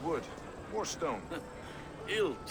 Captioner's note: laugh